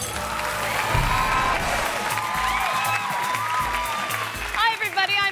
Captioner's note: glass shattering; audience applauding and cheering